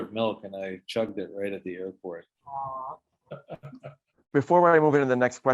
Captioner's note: laughs